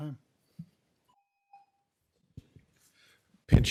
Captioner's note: timer tone